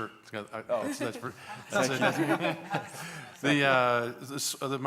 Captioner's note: laughter